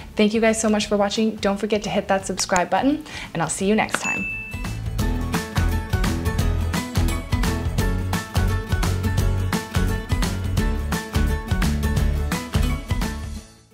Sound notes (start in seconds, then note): 3.9 button clicks; 4.0 bell dings